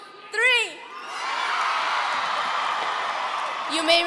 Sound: audience cheering

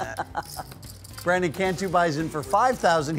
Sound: laughing

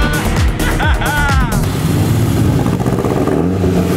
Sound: laughing

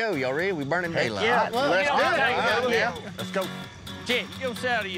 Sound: all chattering

